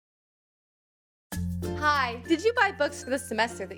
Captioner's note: voiceover